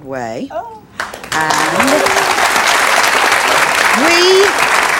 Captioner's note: audience applauds